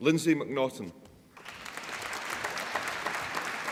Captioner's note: applause